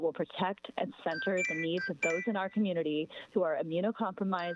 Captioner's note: chime